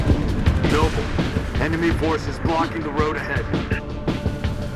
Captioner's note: radio